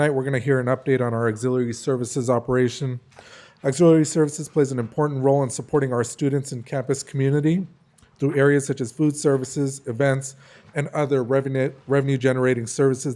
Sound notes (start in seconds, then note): none